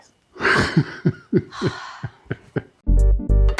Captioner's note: laughing; upbeat music